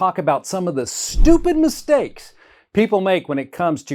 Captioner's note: graphics whooshing